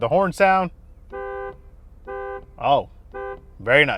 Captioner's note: car horns